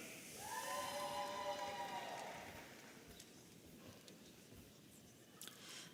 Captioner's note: audience applauding and cheering